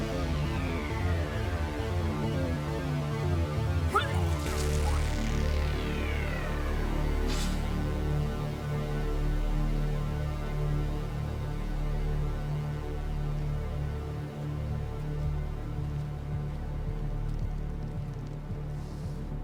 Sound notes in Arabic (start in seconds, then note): 3.9 تناثر القيء; 8.3 موسيقى إلكترونية متوترة